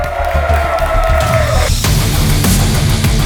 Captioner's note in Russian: Аплодисменты